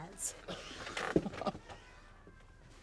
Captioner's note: chuckles